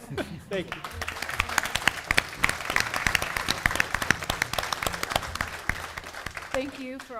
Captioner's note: applause